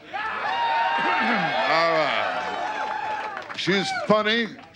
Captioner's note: audience applause